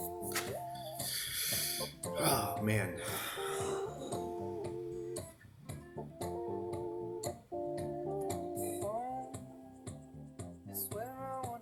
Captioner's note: sighs